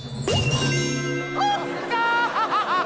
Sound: laughing

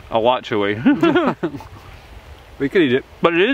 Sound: men laugh

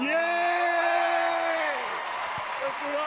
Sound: applause

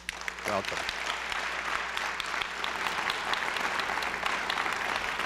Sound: applause

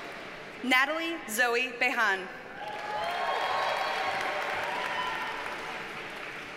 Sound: audience cheers and applauds

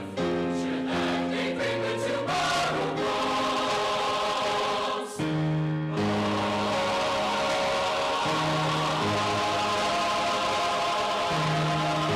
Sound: applause

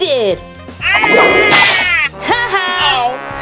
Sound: Mayor Humdinger screaming; Liberty laughing

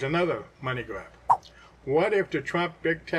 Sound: swipe sound

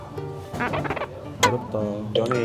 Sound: scratching

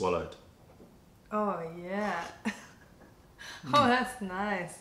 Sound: laughter

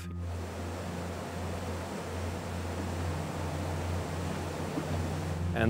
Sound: water rushing

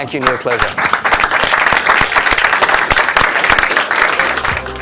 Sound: applause

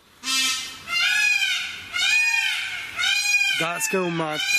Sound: peacocks squawking

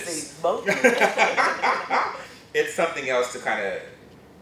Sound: laughter

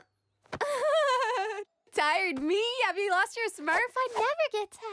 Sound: giggling

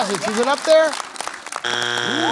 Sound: buzzer sounds

